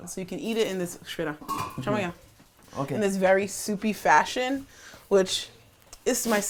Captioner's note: speaking portuguese